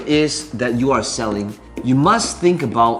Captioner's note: tapping marker